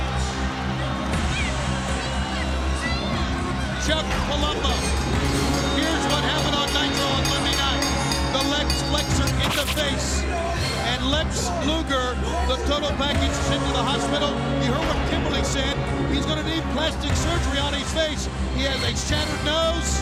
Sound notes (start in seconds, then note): 4.7 crowd cheering; 6.6 bell ringing